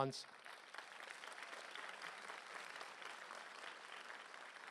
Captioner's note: applause